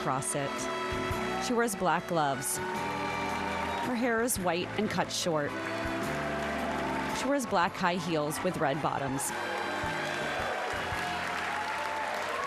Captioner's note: applause